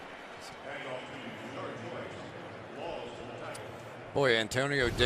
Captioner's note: pa announcement